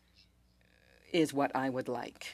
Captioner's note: speaking French